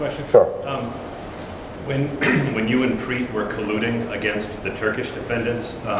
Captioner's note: clears throat